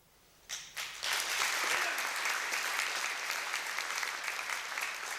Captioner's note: applause